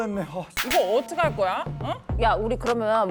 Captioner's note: repeat-sign sound effect